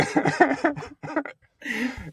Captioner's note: both laughing